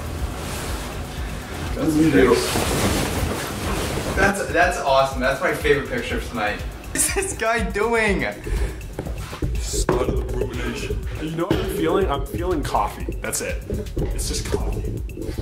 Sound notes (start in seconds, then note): 1.8 rustling